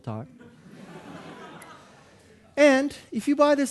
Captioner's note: audience laughing